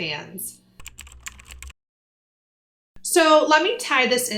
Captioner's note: keyboard typing